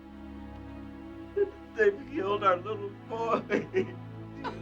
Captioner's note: crying